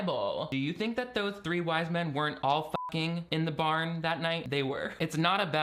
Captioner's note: beeping